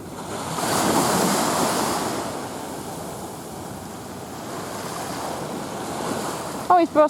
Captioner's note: waves lap